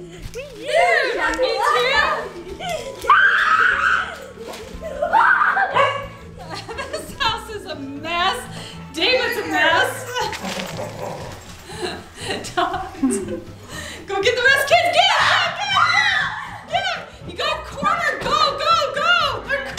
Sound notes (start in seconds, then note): 3.0 boy screaming; 15.1 people screaming